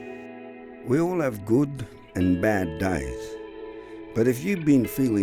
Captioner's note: voice-over